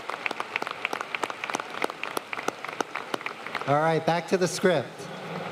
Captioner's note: applause